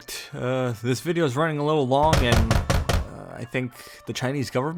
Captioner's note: heavy knocking on door